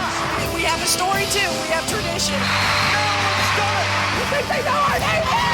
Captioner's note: cheers and applause